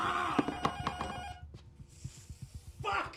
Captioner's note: intercom rings